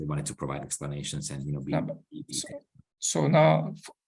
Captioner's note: audio skips